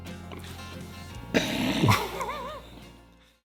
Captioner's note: snorts; chuckling